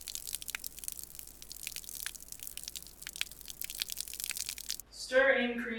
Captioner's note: liquid pouring sound effect